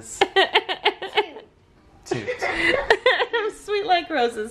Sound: laughing

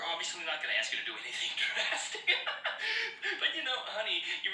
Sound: hysterical laughter

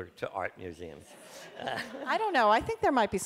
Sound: laughter from audience

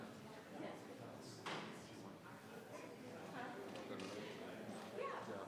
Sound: members chattering

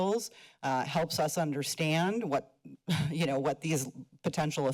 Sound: chuckles

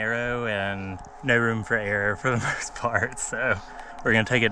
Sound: chuckling

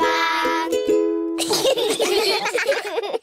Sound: all giggling

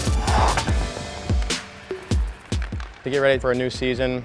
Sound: skates sliding

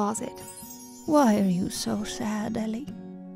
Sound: voiceover

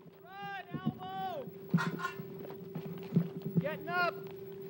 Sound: shouting orders

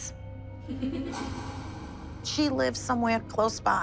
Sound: laughing

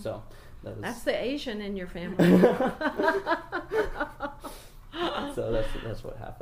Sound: laugh

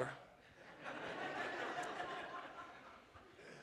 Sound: laughter

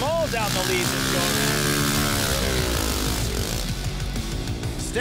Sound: engines revving

